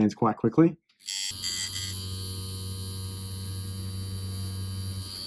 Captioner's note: machine whirring